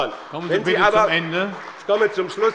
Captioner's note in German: Beifall bei dem BÜNDNIS 90/DIE GRÜNEN und der CDU